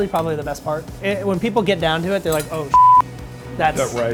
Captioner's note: beep